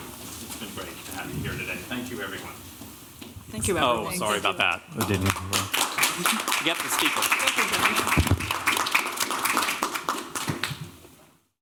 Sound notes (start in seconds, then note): 4.9 applause